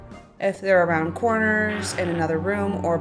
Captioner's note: grahhhh